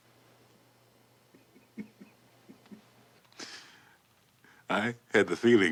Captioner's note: Barney chuckling